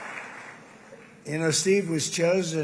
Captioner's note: applause